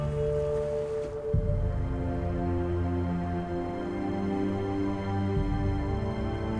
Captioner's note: river flowing; wind whistling